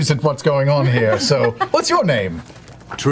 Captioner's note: all laugh